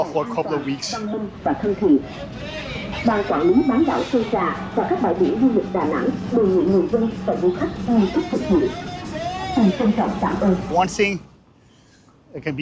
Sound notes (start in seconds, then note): 1.6 loudspeaker in Vietnamese